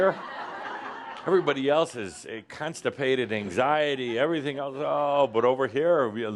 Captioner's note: laughter